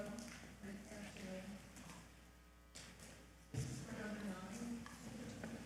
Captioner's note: faintly speaking